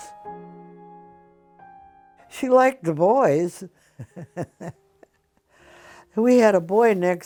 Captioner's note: laughs